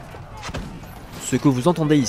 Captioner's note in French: bruits de guerre